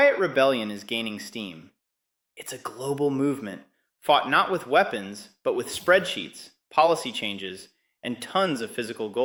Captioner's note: whispers